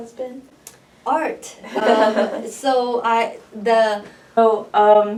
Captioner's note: laughs